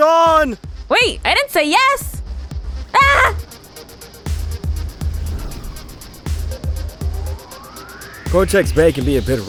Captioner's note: screams